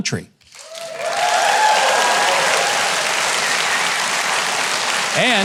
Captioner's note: audience applauding